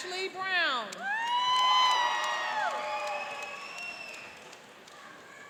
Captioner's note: cheering and applauding